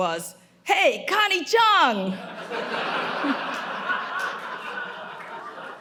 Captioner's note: audience laughing